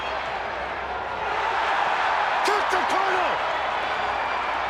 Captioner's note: crowd cheering